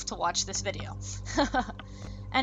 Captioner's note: laughs